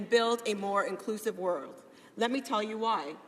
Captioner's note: speaking english